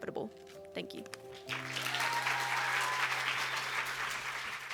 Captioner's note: cheers and applause